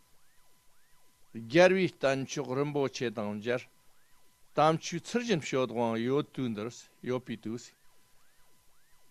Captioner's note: tibetan